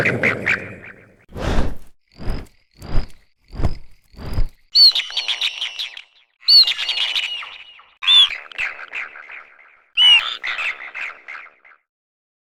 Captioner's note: growling and chirping; chirping